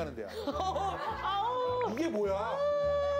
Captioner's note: arrrgh